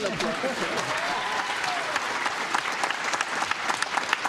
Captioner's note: cheers and applause